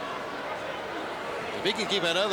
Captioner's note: crowd chatter